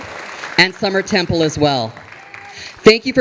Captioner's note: audience applauding